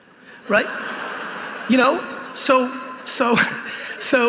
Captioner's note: audience laughing